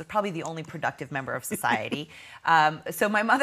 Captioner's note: laughing